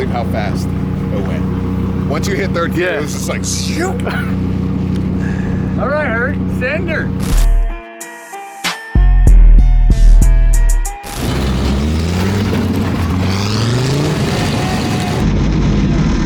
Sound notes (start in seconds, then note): 7.6 mellow music with slow beat; 11.0 engine revs up